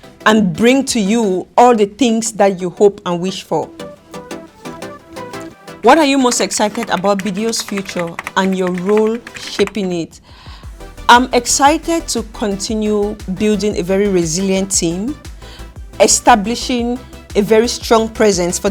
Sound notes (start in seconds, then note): 3.9 upbeat music; 5.8 keys typing